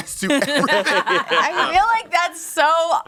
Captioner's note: everyone laughs